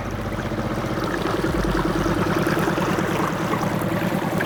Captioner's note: engine roaring